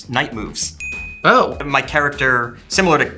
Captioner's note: bell chimes